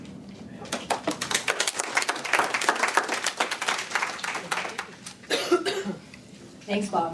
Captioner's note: applause